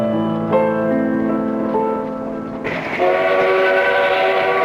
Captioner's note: train whistle